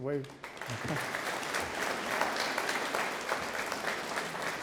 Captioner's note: audience applauds